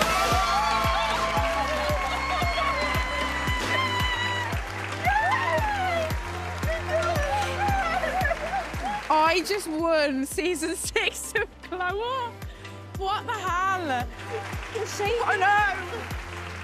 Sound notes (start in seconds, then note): 0.2 cheering & applause; 7.0 cheering